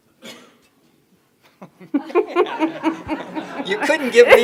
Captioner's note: everyone laughing